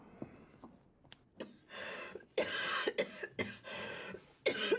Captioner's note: coughing persistently